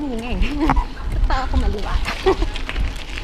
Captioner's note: laughs